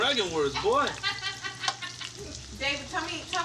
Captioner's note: laughing